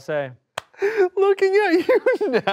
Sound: laughs

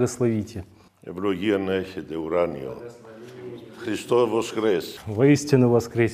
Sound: “Christ is Risen” in Russian

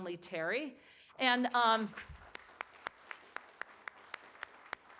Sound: applauding

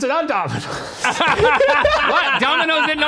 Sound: all laughing

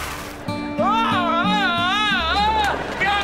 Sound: screams

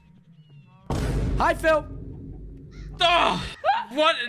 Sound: boom

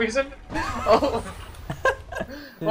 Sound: cheeky giggling

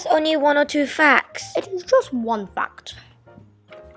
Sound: posh accent

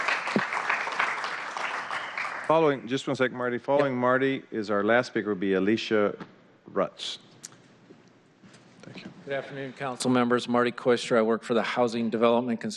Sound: applause

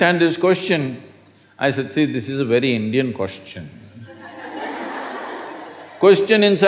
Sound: laughter

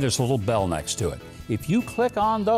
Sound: bell ding

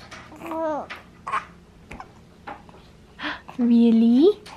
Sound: cooing

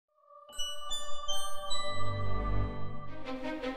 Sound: gentle chimes; intense orchestral music

